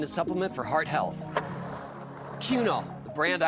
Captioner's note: skateboard wheels roaring